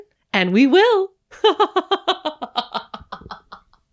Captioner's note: eerie laughter